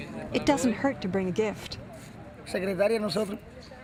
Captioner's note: speaking spanish